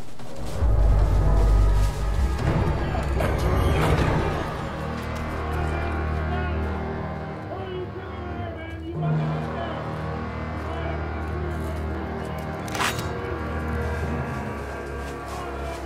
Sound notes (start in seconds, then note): 3.9 men chattering; 13.2 ax clangs